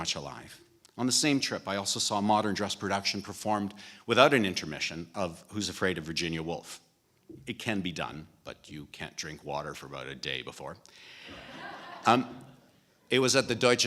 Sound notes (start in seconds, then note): 11.2 laughter